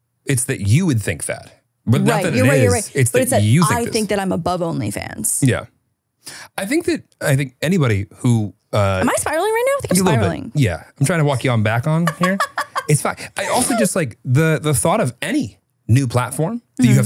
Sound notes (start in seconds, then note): 13.3 laughing